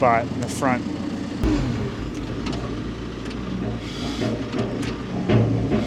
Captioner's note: machinery rumbling